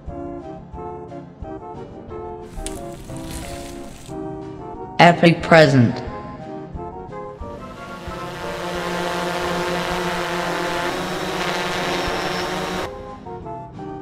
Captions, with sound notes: Epic present. *buzzing noise*